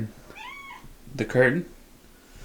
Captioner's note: cat meows